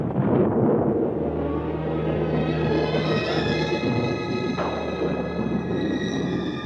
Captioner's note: stones rumbling continues; thunder crashing; moves to brooding music